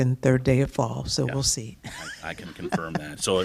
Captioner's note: laughter